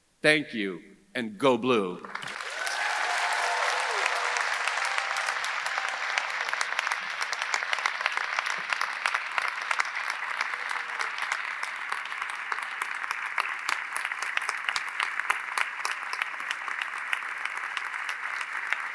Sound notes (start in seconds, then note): 2.5 audience applauding; 2.5 audience cheering